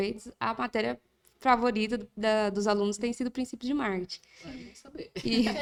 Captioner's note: laughs